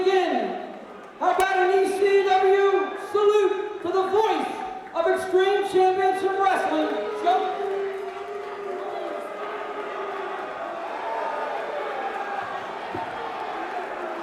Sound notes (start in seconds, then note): 8.9 crowd chatter; 10.2 crowd cheering